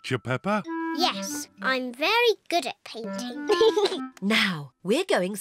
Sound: giggles

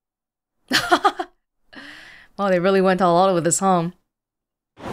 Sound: chuckles

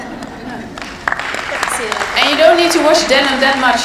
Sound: applause

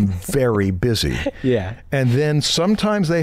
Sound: chuckle

